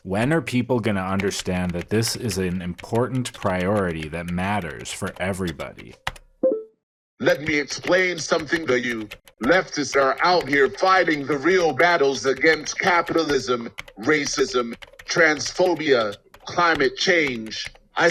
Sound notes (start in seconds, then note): 7.4 typing noises